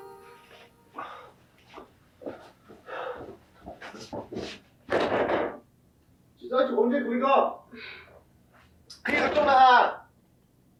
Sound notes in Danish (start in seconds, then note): 0.0 musik falmer; 4.8 dør banker